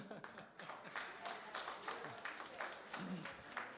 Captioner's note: applause